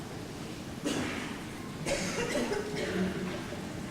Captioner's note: coughing